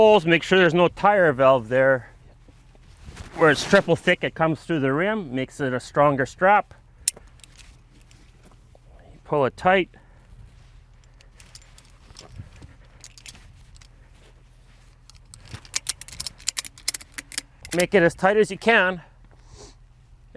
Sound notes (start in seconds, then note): 2.4 clothes rustling; 7.2 latch clicking; 7.2 clothes rustling; 10.4 clothes rustling; 11.5 latch rattling; 15.3 latch clicking; 19.8 sniffs